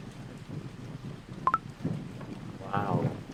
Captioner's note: sudden light rain